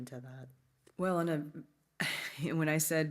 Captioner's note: laughs